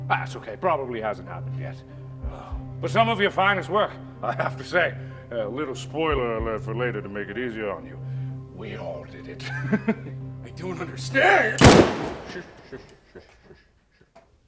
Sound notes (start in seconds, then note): 8.6 whispering; 9.5 chuckles; 11.6 gunshot